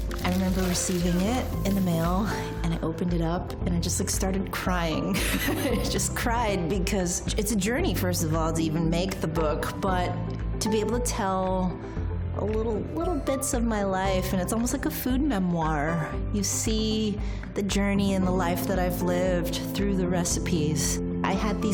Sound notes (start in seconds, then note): 5.1 laughter